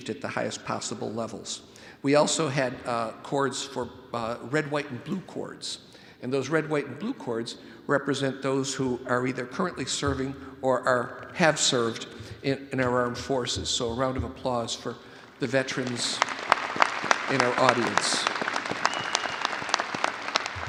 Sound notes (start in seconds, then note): 15.7 all applauding